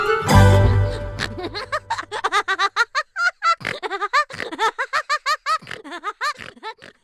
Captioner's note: laughter